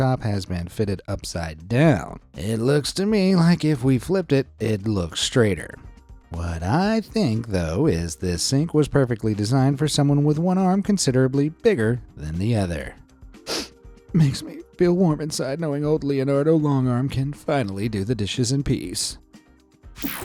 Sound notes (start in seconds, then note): 13.4 sniffs